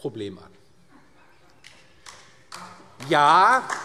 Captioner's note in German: Beifall DIE LINKE